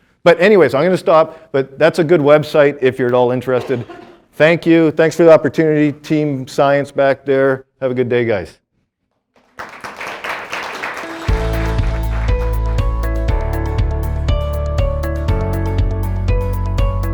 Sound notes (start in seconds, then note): 9.3 students clapping; 10.9 upbeat music